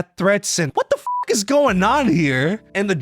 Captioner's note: beeps